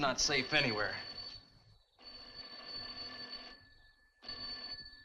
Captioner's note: telephone rings